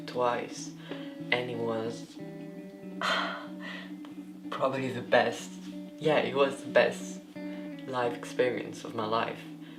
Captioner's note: sighs